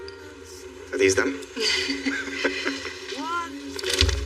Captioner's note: Jennifer r chuckles; Chad lalaughs